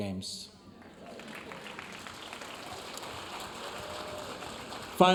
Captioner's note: audience applauding